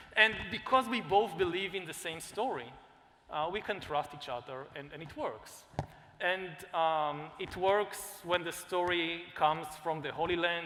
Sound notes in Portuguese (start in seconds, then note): none